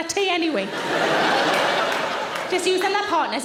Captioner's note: audience laughing